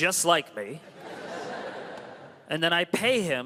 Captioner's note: crowd laughs